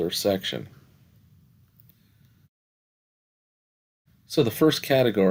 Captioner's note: no Speech Detected